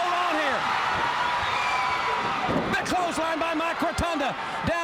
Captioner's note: crowd cheering